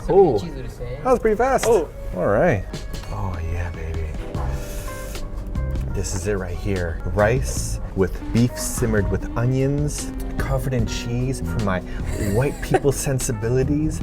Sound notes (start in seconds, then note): 4.4 inhale; 12.0 laughs